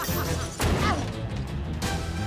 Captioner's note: laughing; grunts